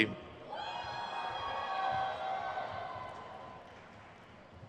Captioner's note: crowd cheers